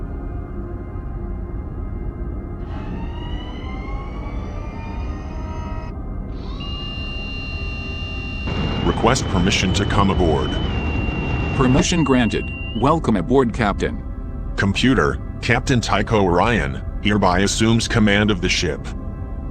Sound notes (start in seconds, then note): 6.3 piping aboard sound